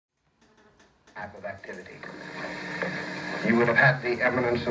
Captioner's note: radio voiceover